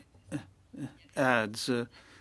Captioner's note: speaking French